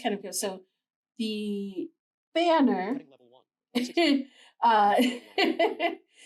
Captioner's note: laughs